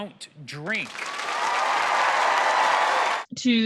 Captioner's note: audience clapping